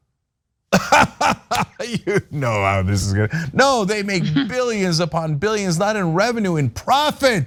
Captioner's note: laugh